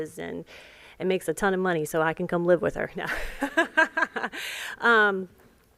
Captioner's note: laughter